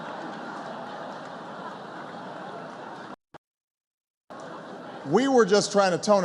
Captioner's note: laughter